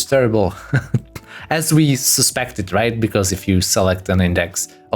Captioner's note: laughs